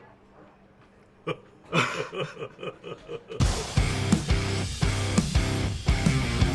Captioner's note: laughter